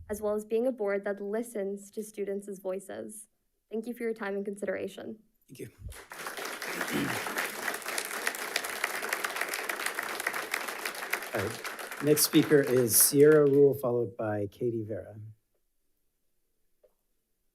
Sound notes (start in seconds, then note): 5.9 audience applauding